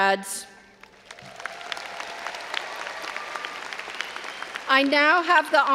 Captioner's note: audience applauding and cheering